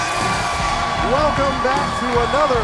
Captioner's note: crowd cheering